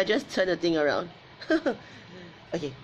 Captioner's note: laughs